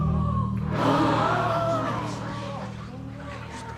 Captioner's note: subdued gasps, murmurs; loud gasps